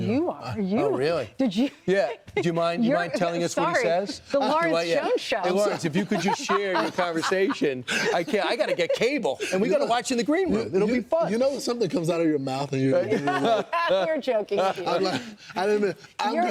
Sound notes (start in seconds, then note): 10.1 laughter; 13.0 laughter